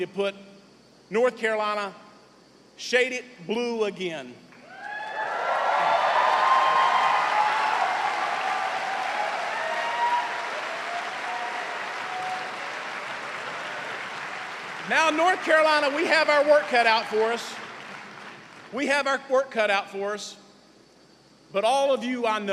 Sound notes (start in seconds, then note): 4.6 cheers and applause